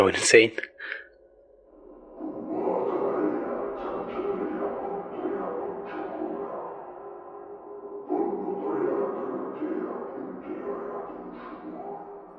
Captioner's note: chanting from a distance